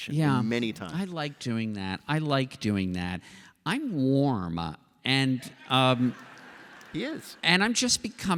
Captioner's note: laughter